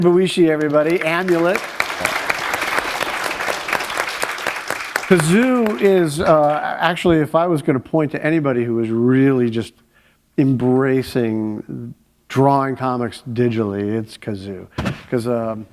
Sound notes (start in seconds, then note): 3.7 applause